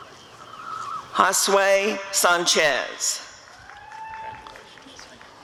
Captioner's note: applause and cheering